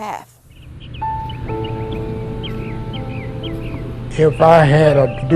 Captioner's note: birds chirping